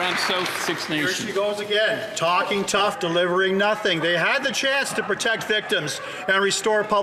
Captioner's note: some Applause